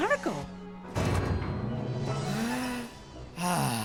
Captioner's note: man sighs